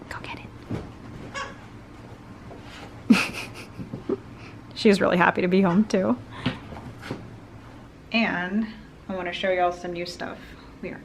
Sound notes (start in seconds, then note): 1.4 squeak; 3.0 laugh